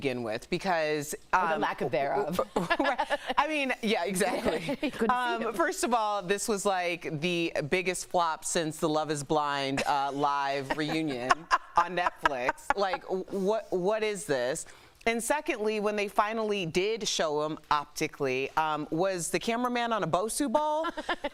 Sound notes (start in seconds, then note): 8.7 laughter